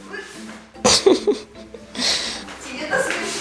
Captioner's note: laugh